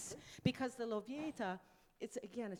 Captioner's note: speaks in foreign language